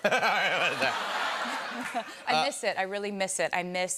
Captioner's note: laughter